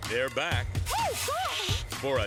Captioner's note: indiscernible screams/squeals